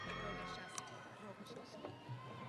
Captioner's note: audience cheering